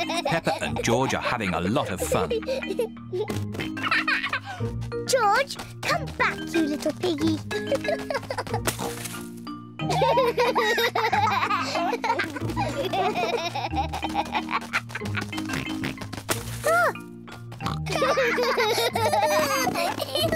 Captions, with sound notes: Peppa and George are having a lot of fun. George! Come back, you little piggy. (BOTH LAUGH) -Ah! -(BOTH LAUGH)